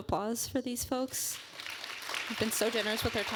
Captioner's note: applause